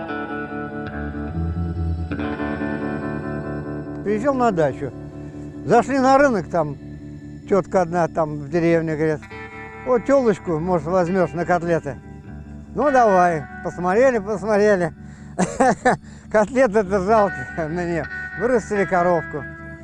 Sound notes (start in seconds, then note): 15.3 laughs